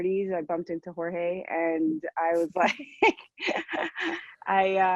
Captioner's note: laughs